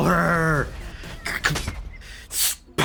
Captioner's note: sigh